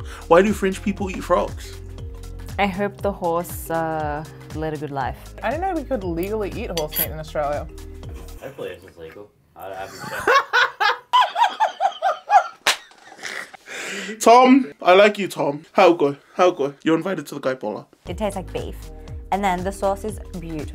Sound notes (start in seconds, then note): 9.9 laughs loudly; 15.2 speaks Tongan; 17.2 in Tongan